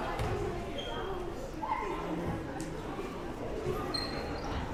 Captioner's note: crowd murmuring